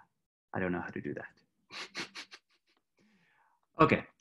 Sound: chuckles

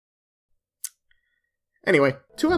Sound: clicks tongue

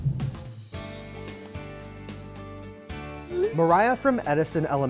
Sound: icon clicking

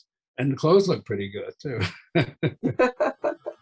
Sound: laughing

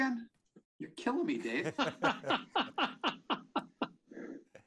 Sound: laughing

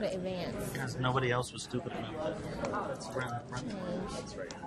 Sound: voiceover

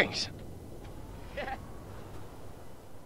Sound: chuckles

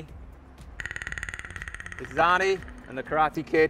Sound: Predator clicking

